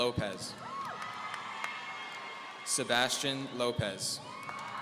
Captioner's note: audience cheering